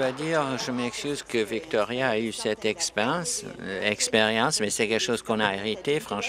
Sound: applause

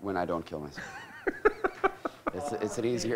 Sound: laughs

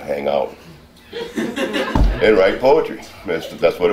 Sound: audience laughing

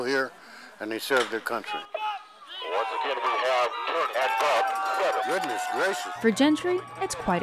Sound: crowd cheering; announcer on PA

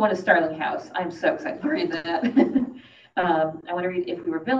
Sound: laughs

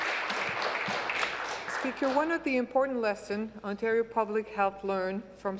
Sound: applause

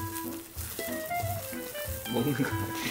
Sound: nibble nibble

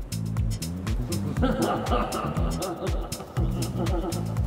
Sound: groovy Music; laughing

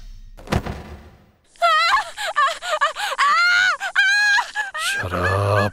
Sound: cries of pain

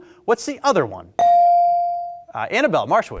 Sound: beep

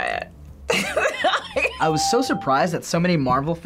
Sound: laughs

